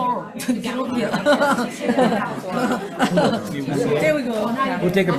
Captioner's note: laughs